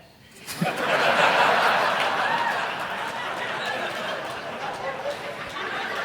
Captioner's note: audience laughing and clapping